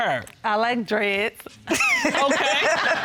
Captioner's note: laughter